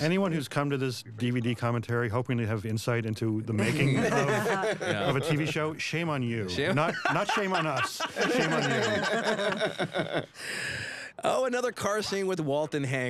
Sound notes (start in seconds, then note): 8.7 chuckles